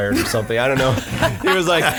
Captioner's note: laughing